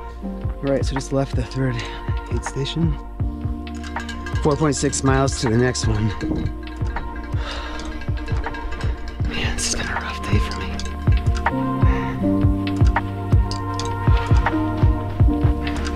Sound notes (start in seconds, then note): 6.1 bell dinging; 7.2 sighing